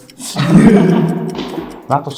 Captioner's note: инээх